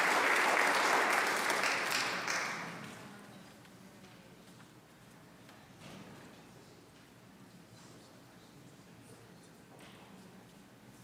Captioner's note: applause